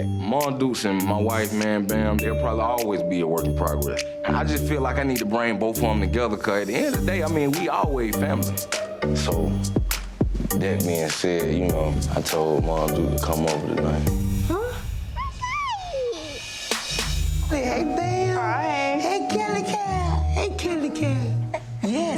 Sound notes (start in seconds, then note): 9.2 tense thumping music; 15.2 kid babbles; 18.5 tense thumping music